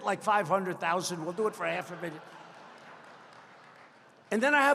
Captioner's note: laughter